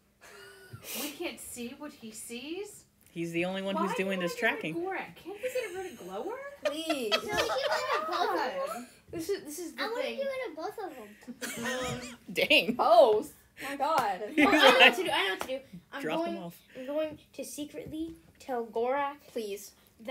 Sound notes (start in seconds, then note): 8.1 laughter